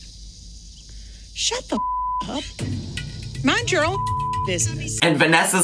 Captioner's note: beep